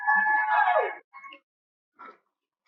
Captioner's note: cheering